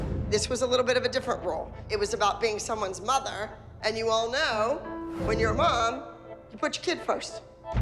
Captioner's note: none